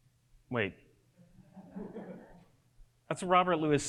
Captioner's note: audience giggles